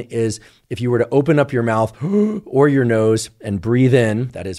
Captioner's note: inhales